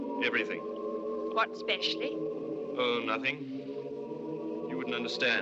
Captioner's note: none